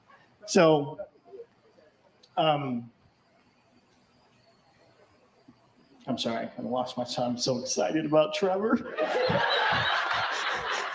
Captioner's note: laughter